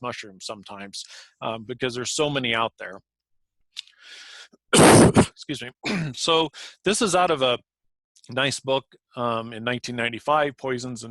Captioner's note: cough